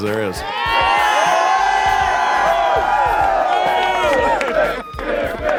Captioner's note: crowd cheering